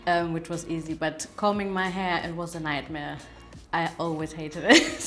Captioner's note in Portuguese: risos